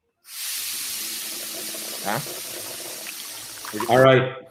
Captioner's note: coffee sizzling